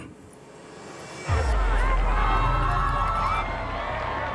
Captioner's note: crowd commotion